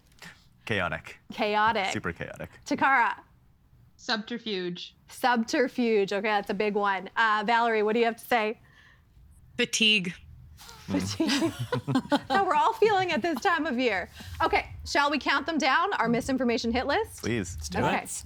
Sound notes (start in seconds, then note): 10.9 all laughing